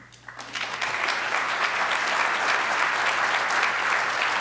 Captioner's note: audience applause